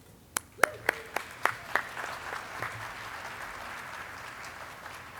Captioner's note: audience clapping